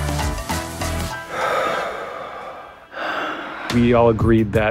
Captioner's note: exhaling deeply